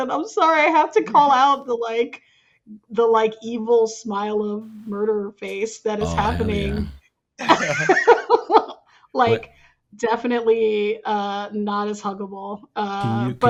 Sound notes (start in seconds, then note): 7.4 laughing